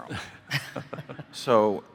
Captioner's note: group laughing